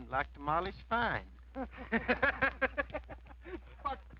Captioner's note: laughter